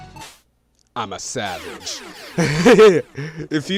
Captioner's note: laughs